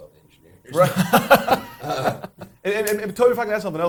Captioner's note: laughing